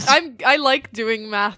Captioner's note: laughs